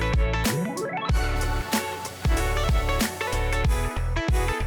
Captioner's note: water sprays; upbeat music continues